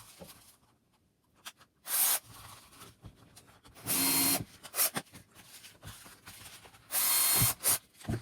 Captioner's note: drill sounds